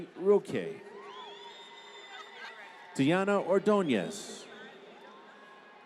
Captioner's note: applause